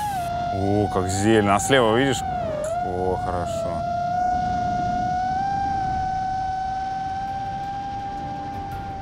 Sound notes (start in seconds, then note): 4.4 drone continues to whizz